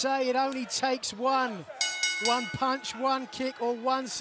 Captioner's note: bell ringing